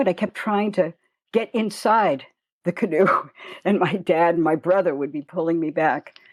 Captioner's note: chuckle